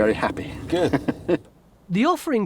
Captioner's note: laughing